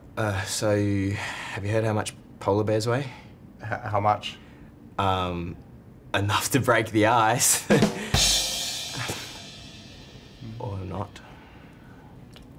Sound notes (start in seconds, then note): 7.6 laughs; 7.8 ba dum tss!